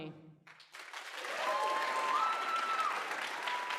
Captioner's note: applause